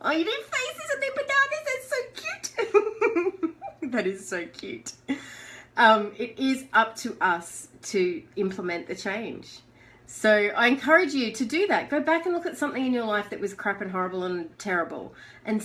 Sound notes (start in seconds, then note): 2.2 giggling